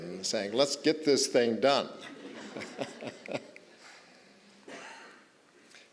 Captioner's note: all chuckling